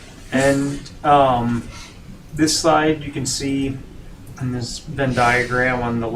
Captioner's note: laughing